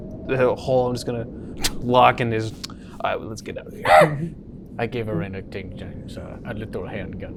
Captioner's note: monkey noise